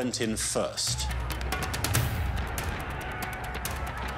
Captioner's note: distant commotion